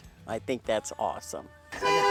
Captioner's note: car horn